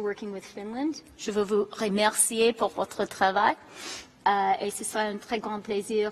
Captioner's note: speaks in a foreign language